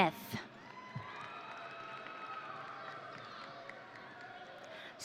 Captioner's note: audience cheering